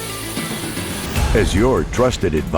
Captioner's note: grinding sound